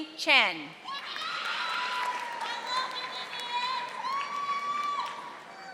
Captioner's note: audience applauding